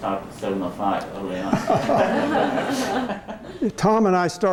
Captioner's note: laughter